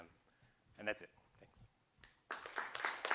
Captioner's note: applause